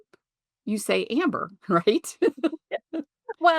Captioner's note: chuckles